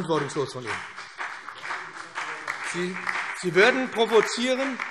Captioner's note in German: Beifall